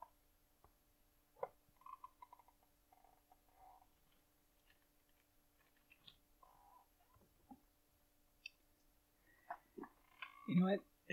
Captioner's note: chair creaking